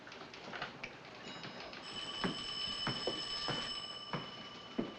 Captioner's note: phone ringing